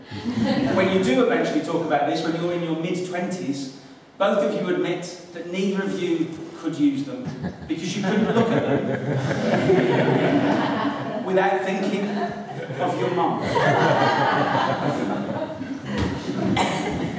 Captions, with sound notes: When you do eventually talk about this, when you're in your mid-twenties, both of you admit that neither of you could use them because you couldn't look at them... (laughter) ..without thinking of your mum.